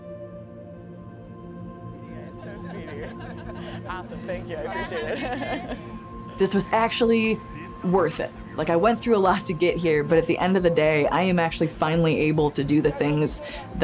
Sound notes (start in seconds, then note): 0.2 serene music; 2.2 people chattering and laughing